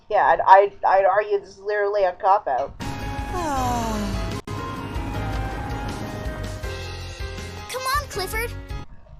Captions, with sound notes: Yeah, I'd- I-d- I'd argue this is literally a cop-out. - (content sigh) - C'mon, Clifford!